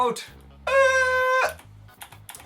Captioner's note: cries